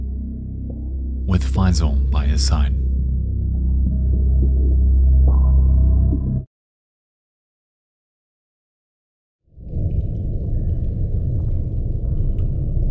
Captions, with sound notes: with Fyzal by his side. (high intensity music) (water dripping) (water dripping)